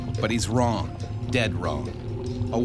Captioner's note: voiceover